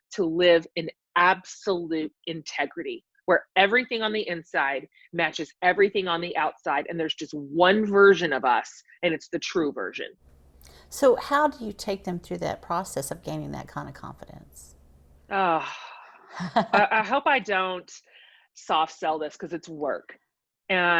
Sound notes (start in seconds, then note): 16.3 laughs